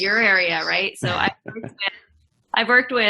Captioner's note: laughing